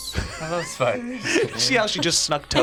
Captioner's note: laughs